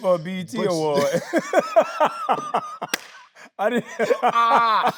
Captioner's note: both laughing